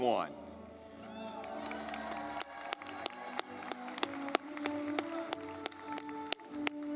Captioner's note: audience clapping